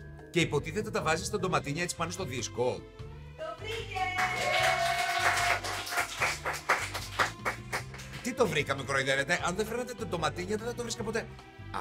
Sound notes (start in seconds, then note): 3.6 applause